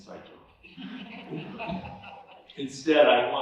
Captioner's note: laughter